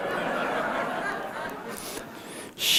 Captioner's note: laughter